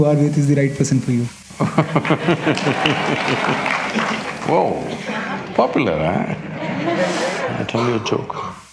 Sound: laughs/Laughter

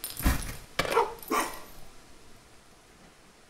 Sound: barks

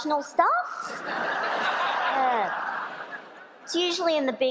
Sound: laughter

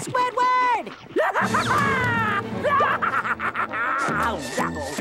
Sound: laughing

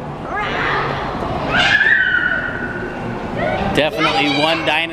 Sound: children roaring

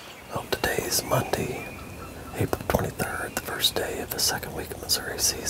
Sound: whispering

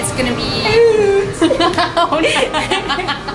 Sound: laughs; Canadian accent

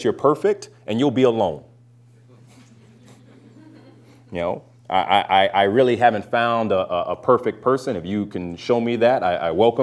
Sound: laughter

